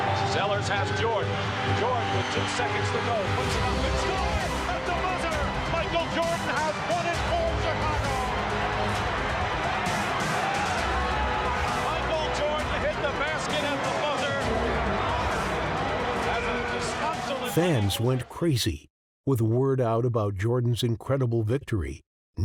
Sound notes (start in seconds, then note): 8.4 crowd cheering